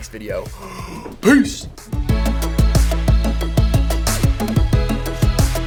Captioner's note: heavily exhales